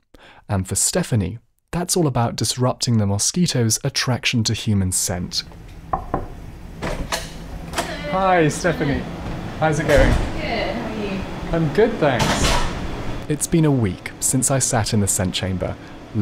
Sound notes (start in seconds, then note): 5.9 knocking